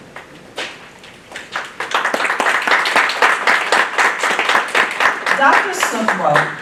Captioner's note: applause